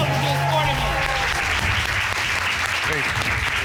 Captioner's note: cheers and applause